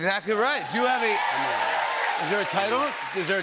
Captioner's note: cheers and applause